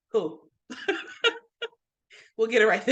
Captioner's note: laughing